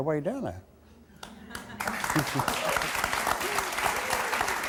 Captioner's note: audience applauding